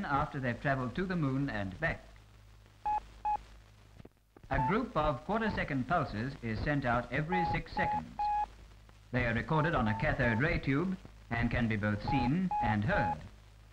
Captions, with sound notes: after they've travelled to the moon and back. [Beep Beep] A group of quarter second pulses is sent out every six seconds. They are recorded on a cathode ray tube and can be both seen and heard.